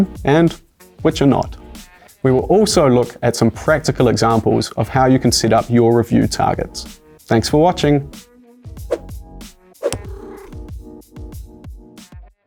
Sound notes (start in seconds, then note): 9.8 whoosh; 9.8 cat purrs